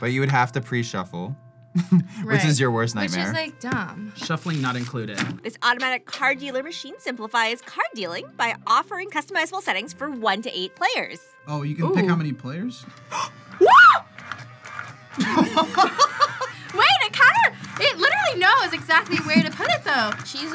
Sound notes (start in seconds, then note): 1.8 laughs; 13.6 screams; 15.2 laughs